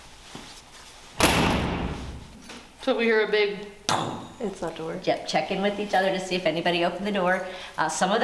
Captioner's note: bang